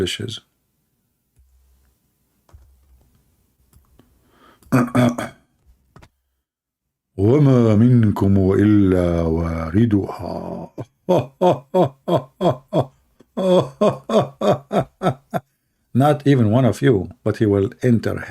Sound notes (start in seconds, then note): 11.4 Ketawa